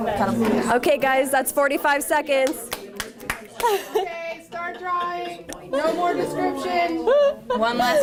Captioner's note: clapping